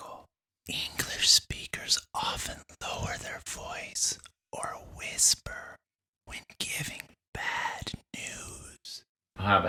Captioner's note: whispered